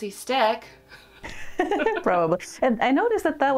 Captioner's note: laughter